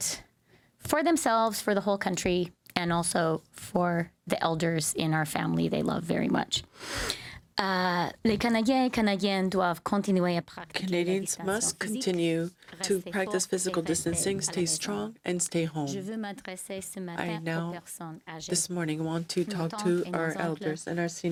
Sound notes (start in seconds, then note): 15.3 speaking French